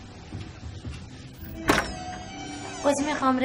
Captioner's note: door opening